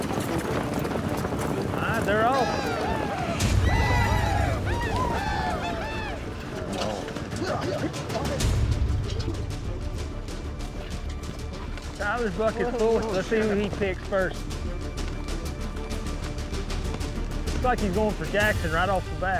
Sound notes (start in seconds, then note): 1.8 horse neighs; 3.3 shouting